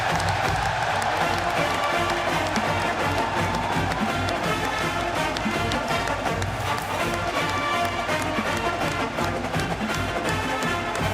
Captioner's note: crowd cheering